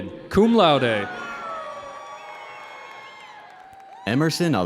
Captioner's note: audience cheering